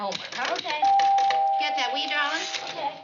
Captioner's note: doorbell